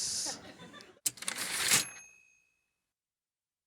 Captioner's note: typewriter ding